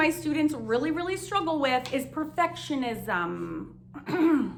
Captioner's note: clears throat